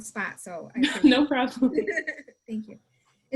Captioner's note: laughs